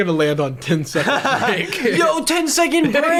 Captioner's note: laughter